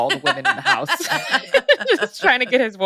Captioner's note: laughs